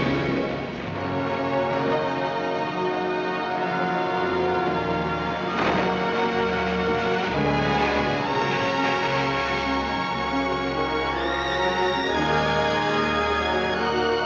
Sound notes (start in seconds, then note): 5.5 logs sloshing; 11.5 evocative music